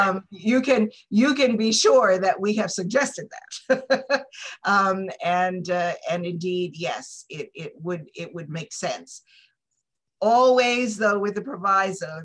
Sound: laughter

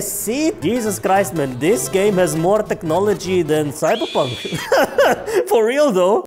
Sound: laughs

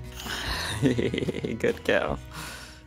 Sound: laughs

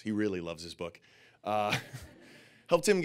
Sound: Alexis and audience laughing

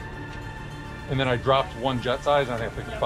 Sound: none

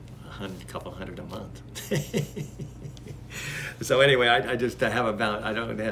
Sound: laughs

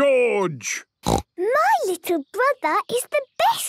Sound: snorts

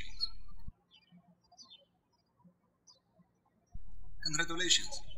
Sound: birds chirping

